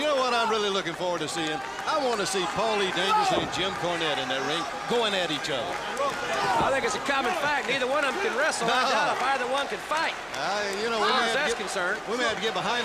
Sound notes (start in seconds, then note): 1.7 crowd chatter